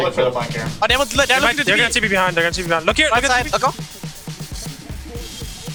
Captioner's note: teammates communicating